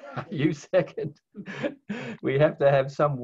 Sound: laughs

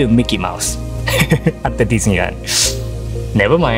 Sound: chuckles

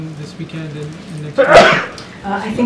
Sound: a reporter sneezes

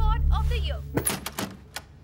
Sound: doorknob rattles

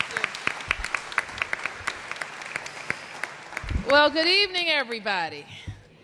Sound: applause

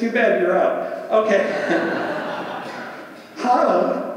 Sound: audience laughs

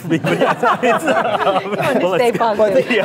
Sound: laughing

